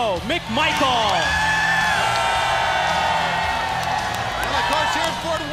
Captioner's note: crowd cheering